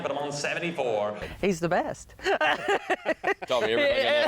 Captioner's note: laughs